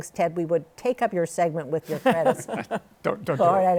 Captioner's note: laughs